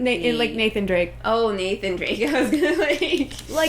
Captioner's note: laughing